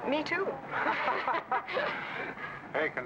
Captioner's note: group laughs